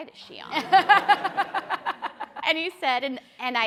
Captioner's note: people laughing